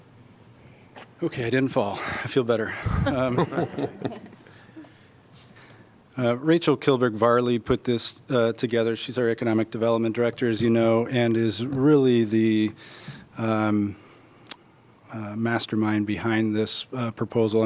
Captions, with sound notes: Okay, I didn't fall. I feel better. [LAUGHTER] Rachel Kilburg Varley put this uh, together. She's our economic development director, as you know, and is really the um, mastermind behind this proposal.